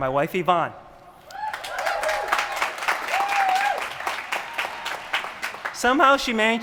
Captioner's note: applause